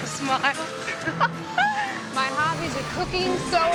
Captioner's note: laughing